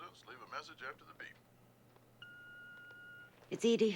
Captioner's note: on answering machine; line beeps